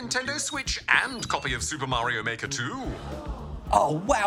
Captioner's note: audience gasps